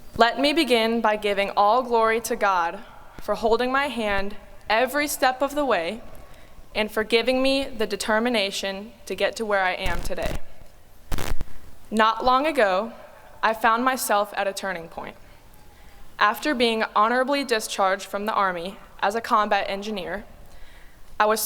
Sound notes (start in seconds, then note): none